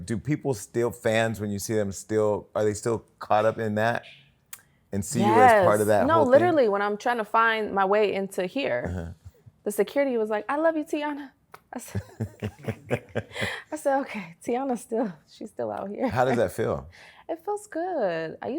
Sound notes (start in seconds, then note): 11.8 laughter